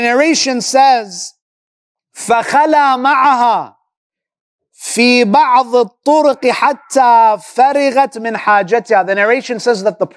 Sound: Arabic

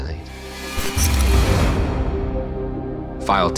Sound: static buzzing

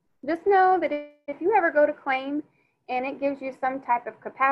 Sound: none

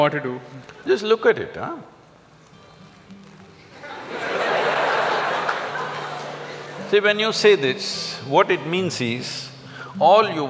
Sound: laugh

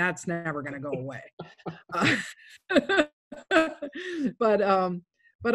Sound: laughing

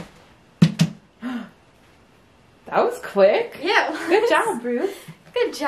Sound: gasp

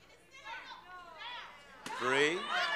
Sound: audience yelling

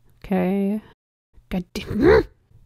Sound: grunts

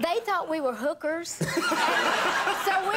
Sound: audience laughing

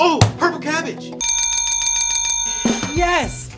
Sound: bell ringing

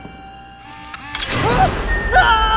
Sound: slamming, electric whirring; loud metal creak

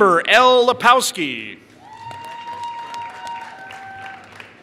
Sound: applause

